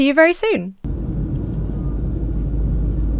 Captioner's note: cabin air circulating